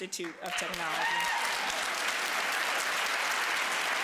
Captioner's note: applause